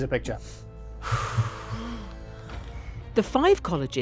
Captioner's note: air whooshing